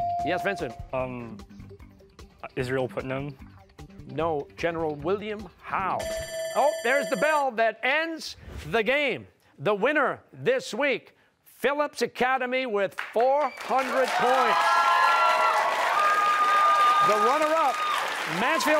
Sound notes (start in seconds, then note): 6.0 timer sounding; 13.2 cheers and applause